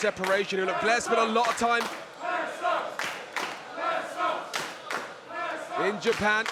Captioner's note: applause